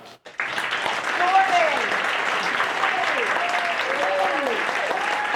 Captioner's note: applause